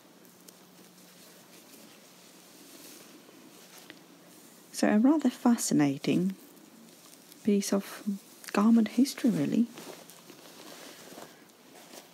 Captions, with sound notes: (fabric rustling) So a rather fascinating piece of garment history really.